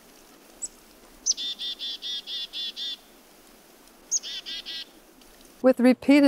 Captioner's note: chickadee bird song